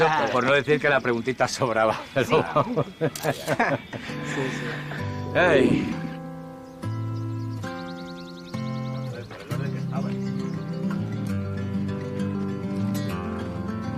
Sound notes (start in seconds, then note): 1.6 laughing; 7.1 relaxed music